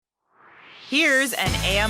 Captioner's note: swoosh